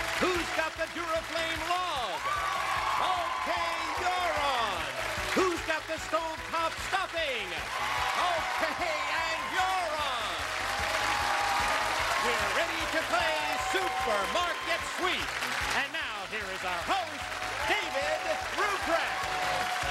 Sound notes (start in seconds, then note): 11.2 cheers and applause; 19.7 cheers and applause